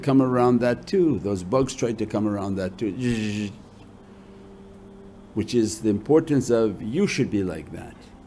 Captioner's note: zapping sound